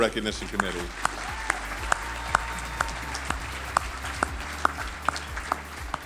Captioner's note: audience cheering and applauding